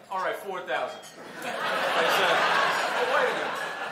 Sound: laughter

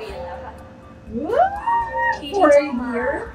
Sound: ambulance sound

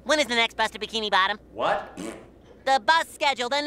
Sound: raspberry

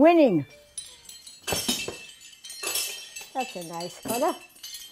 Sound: medals clanking

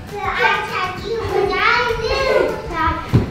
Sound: chatter

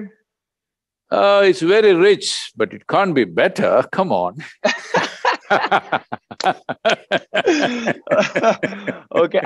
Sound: both laugh

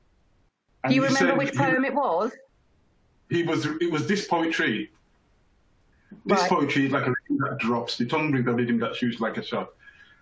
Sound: reciting

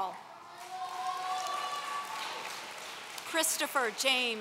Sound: audience cheering

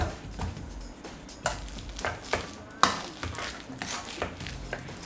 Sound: bananas thudding; bananas squishing; upbeat electronic music

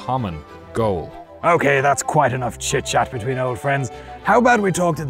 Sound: knightly voice

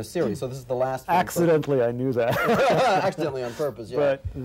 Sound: laughs

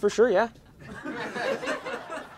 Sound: laughter

